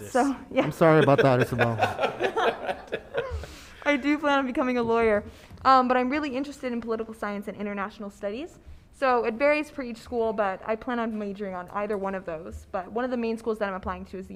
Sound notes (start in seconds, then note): 0.7 panelists laughing